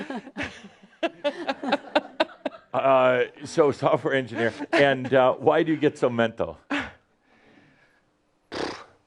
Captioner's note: laughs